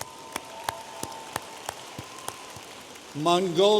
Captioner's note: audience applauding